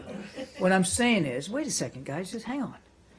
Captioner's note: laughter